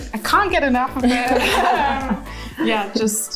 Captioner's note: laughter